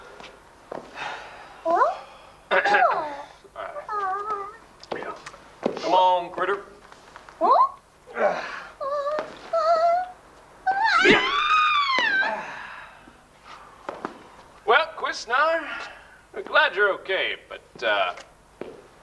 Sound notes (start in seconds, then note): 1.9 curious noise; 2.6 clears throat; 8.3 nervous sounds; 10.6 screaming